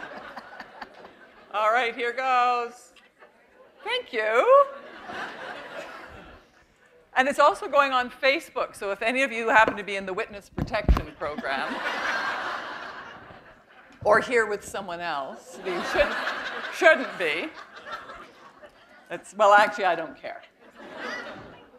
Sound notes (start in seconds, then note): 11.3 laughter